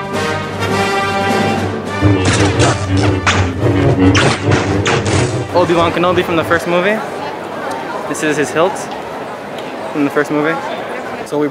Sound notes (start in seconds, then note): 2.2 swords buzzing